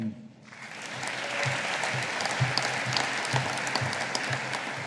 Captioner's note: audience applauding